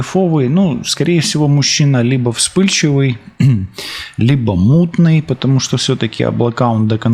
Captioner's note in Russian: откашливается